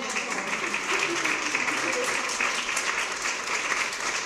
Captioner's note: applause